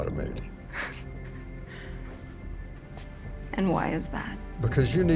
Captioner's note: scoffs